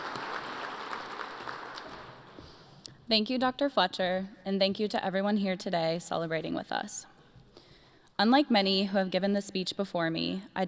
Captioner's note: applause